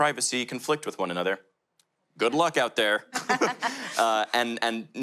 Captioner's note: panel laughter